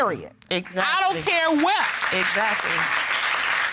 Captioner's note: audience applauds